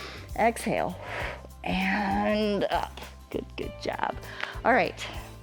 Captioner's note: inhales